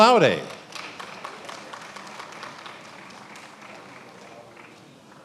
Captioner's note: attendees applauding